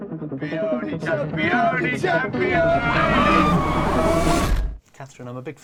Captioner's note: chanting